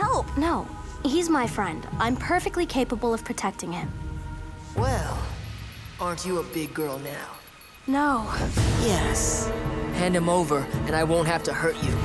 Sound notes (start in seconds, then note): none